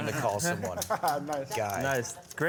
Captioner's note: laughter